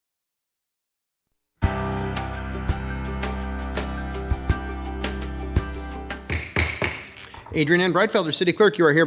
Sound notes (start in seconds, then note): 1.6 upbeat music; 6.2 mallet thudding